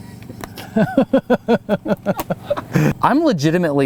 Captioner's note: laughs loudly